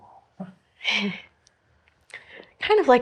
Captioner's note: Kirsty laughs